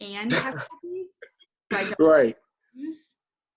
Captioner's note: laughs